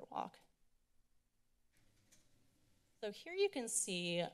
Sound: silence

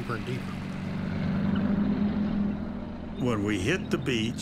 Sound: tanks rumbling

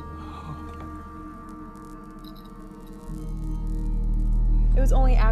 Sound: arcing

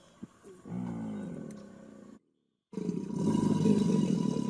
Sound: alligator bellowing

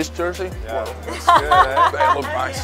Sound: laughs

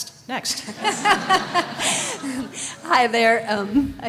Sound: laughter

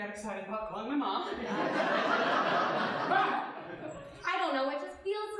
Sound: audience laughing

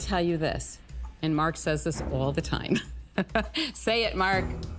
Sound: laughs

